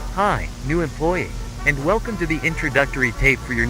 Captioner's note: none